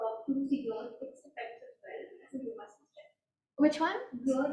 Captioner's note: faintly speaking